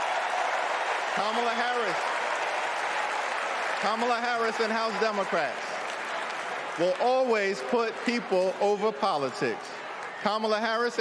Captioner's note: cheering